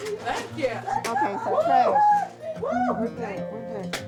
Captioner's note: cheering